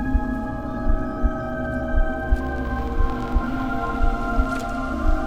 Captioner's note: water softly splashing